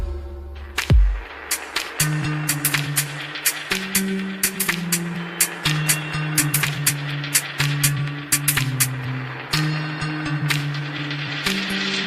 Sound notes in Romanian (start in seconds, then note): 0.8 Aplauze